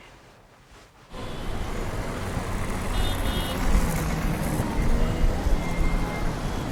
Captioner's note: street sounds